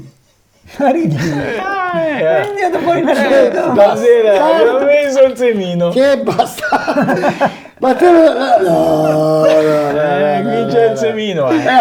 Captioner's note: laughs